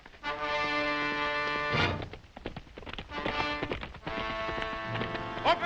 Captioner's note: dramatic music; approaching hooves galloping